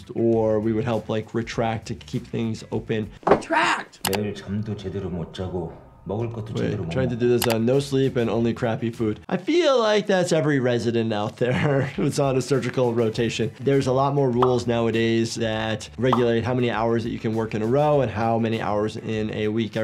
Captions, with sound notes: or we would help, like, retract, to keep things open. - Retract! (mouse clicks) (man speaking in foreign language) Trying to do this on (mouse clicks) no sleep and only crappy food. I feel like that's every resident out there, (chuckles) who's on a surgical rotation. There's a lot more rules nowadays that regulate how many hours that you can work in a row, and how many hours in a week.